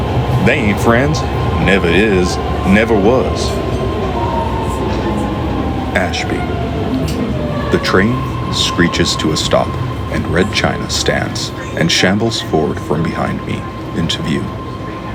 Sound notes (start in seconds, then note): 7.2 the train screeches to a stop, and " "